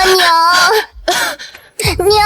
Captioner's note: cough